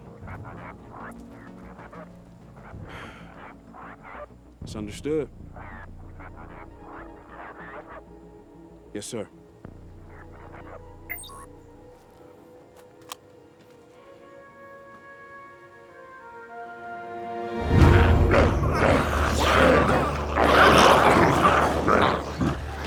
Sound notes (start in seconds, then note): 2.3 sighs; 11.0 phone beeps; 14.7 gentle music; 16.4 dramatic music; 17.6 glowzies growling